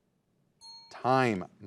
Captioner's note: bell rings